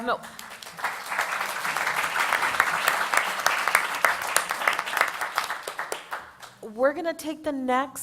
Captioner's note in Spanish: Aplausos